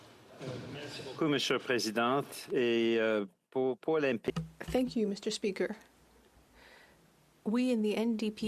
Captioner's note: speaking French